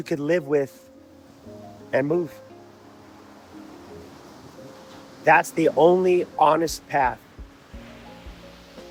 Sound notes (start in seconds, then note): 0.0 water Rushing